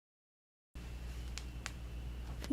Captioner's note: crack bone